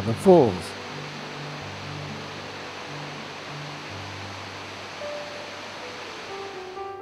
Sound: waterfall sounds

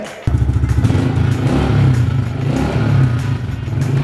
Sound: engine revs

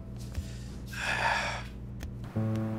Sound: breathes heavily

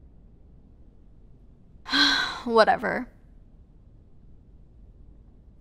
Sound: sigh

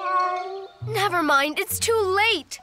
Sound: cat meows

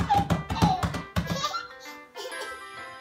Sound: giggling

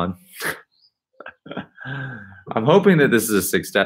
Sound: laughing

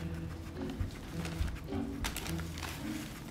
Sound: paper crinkling

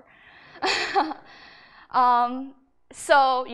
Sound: laughs

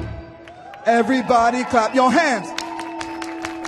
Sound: audience cheering; rhythmic clapping

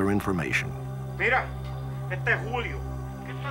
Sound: speaking spanish

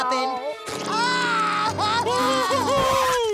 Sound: sobbing

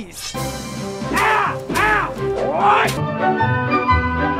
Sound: yelling

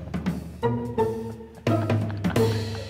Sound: laughter

